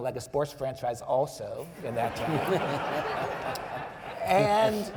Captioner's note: audience members laughing